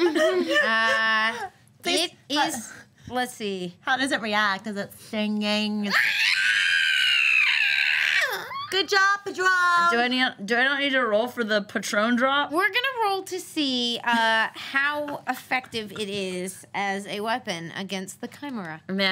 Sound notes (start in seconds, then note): 5.9 imitates screeching